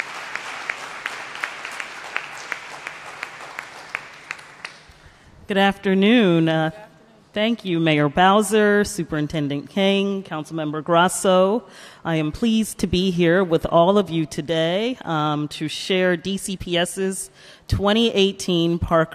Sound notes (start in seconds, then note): 0.0 applause